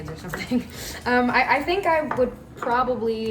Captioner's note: laughs